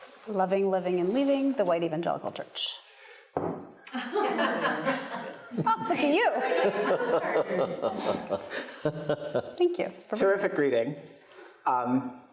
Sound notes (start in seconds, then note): 3.4 book thuds; 4.0 audience laughing; 6.7 laughs